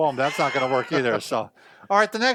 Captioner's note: chuckling